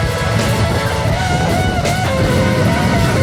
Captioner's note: laughs